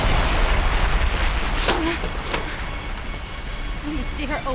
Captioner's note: yanking Down</i> <i> Window Shade